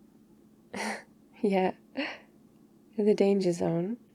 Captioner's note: laughs